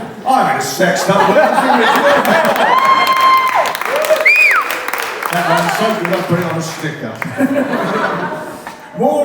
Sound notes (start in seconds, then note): 1.8 cheers & applause